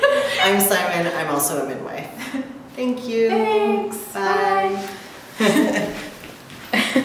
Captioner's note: both laugh